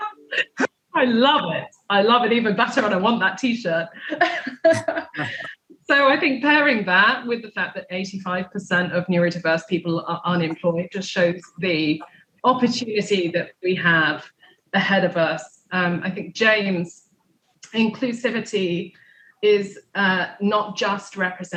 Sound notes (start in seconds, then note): 4.0 laughtr